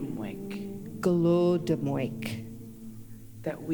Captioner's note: In Mi’kmaq